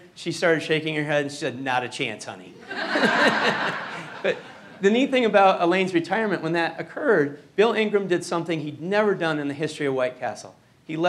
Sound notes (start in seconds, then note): 2.6 laughing